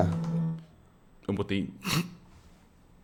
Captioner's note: laughs